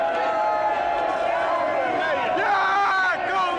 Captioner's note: crowd screaming